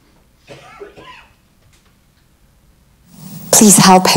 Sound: lady coughs

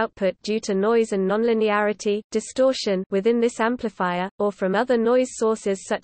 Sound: distortion

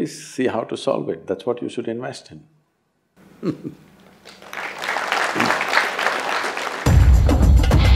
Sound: laughs; applause

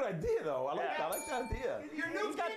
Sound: bell rings

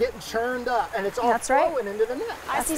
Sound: French

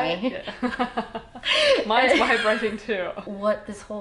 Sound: laughing

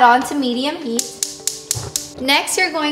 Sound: clicking

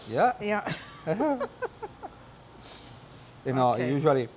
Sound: laughter

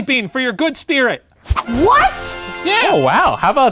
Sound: celebratory music sting; ding

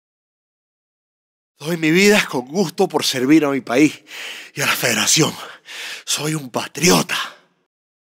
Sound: Spanish

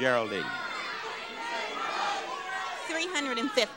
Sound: audience overlapping loudly

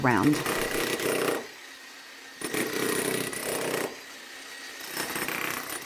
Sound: jackhammering

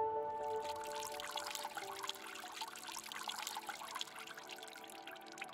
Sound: water trickling sound

